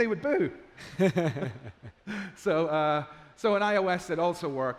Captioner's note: chuckling